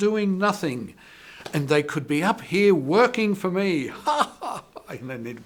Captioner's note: laughing